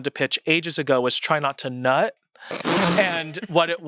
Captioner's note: laughs